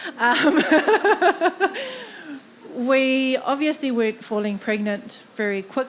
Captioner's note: laughing